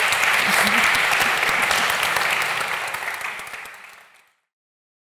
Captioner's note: audience applauding